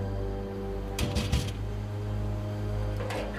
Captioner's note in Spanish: Toques en la puerta